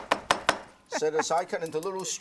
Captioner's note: laughter